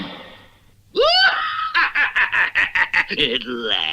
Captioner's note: Simon Bar Sinister Laughs